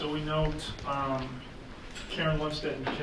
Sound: none

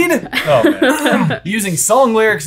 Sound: chuckles

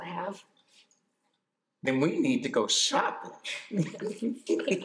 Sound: laughs

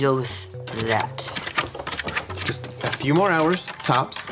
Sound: scratching sounds

